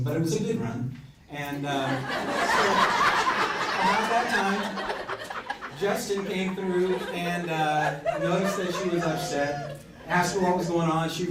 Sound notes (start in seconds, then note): 2.2 crowd laughs